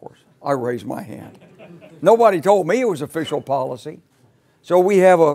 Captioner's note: laugh